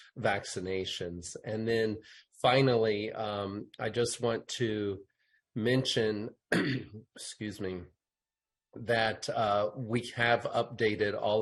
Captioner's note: clears throat